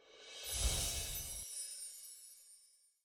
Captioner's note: chiming